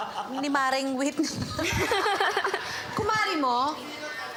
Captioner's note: judges laughing